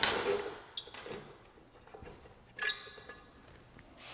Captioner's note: squeaking